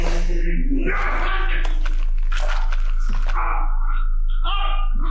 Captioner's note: David choking